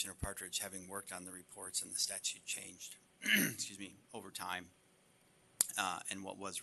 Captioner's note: clears throat